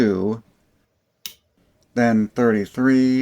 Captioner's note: click